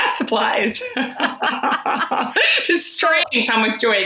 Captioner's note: laughs